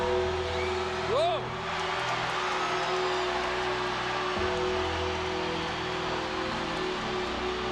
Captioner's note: crowd cheers